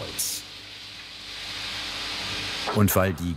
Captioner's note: machine noises